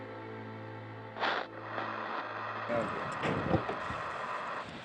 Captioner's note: static hisses